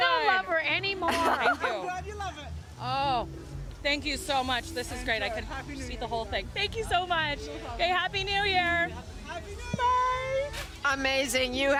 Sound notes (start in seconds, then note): 1.0 laughter